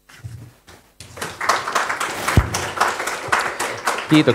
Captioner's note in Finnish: Aplodeja